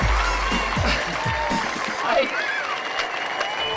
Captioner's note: chuckles; audience cheering and applauding